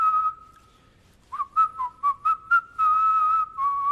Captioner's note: whistling